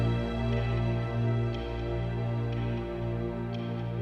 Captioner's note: clock ticking